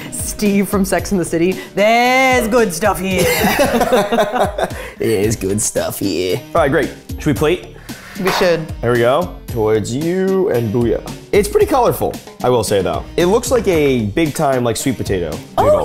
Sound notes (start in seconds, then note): 3.2 both laughing